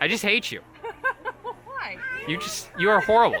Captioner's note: laughter